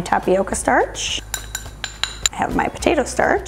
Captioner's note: spoon clanging